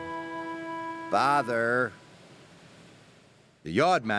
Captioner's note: toots